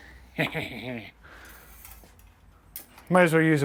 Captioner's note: chuckling